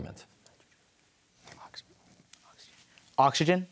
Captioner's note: whispers